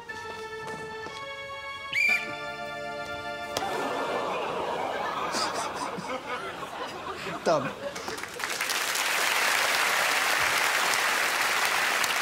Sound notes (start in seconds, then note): 1.9 whistles; 7.9 applause